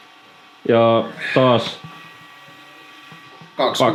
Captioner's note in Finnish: niiskauttaa